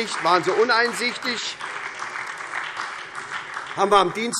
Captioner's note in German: Beifall SPD